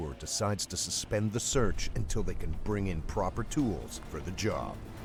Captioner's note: voiceover